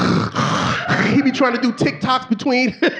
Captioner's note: snorts